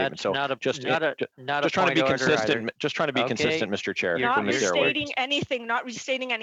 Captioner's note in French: voix de l'interprète